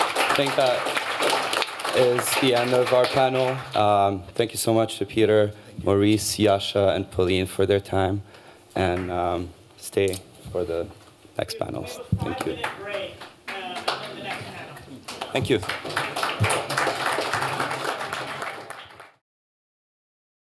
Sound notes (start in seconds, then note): 14.9 applause